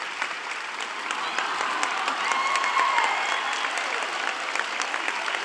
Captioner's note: audience cheering